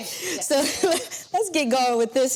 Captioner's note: laughs